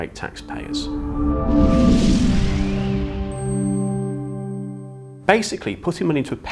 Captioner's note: gentle music; graphics whooshing